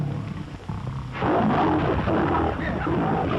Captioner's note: roars